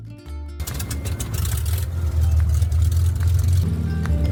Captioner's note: engine starting